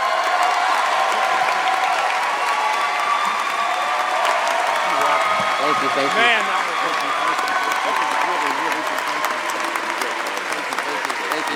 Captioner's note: applause